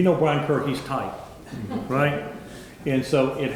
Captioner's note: members laughing